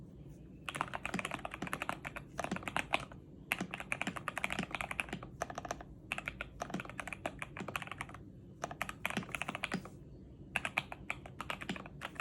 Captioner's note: typing noises